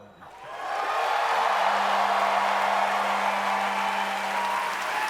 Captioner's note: audience cheers